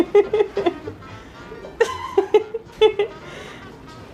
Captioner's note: low laughter